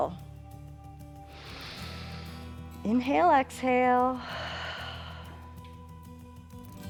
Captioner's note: inhales; exhales